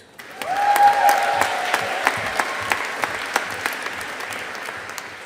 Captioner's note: audience applauding